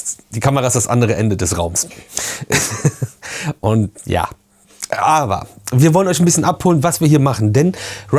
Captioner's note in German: gelächter